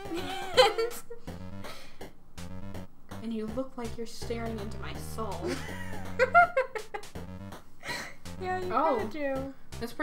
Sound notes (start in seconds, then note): 0.6 laughs; 6.3 Blueheart laughs